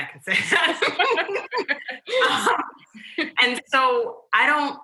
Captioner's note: laughter